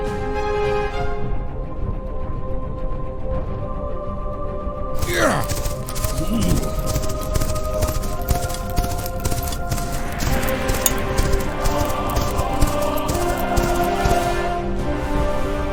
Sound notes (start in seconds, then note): 5.0 men grunting